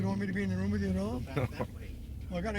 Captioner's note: chuckling